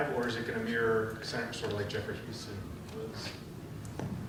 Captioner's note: speaking softly